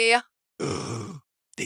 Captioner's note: gasp